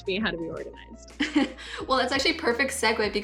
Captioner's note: chuckles